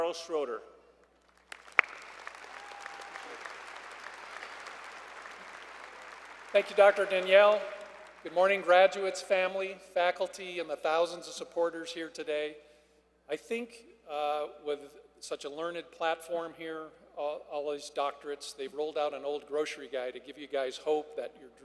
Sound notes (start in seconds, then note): 2.1 applause